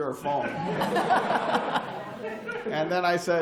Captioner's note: laughter